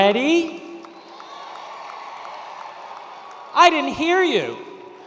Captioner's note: attendees cheering